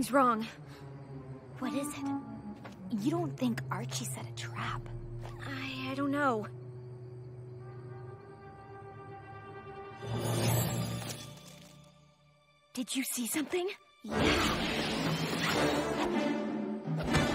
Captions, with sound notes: Something's wrong. (Whispering) What is it? You don't think Archie set a trap? I... I don't know. Did you see something? Yeah.